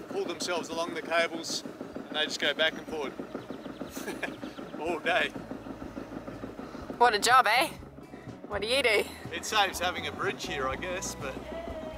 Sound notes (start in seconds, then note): 3.9 laughs